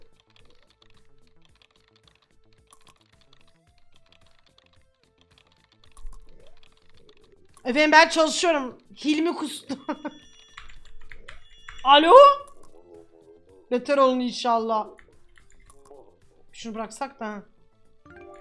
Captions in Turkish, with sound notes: (klavye sesi) Efendim ben çalışıyorum. Hilmi kustu.(gülme) (telefon sesi) Aloo! Beter olun inşallah. Bi şunu bıraksakta heh.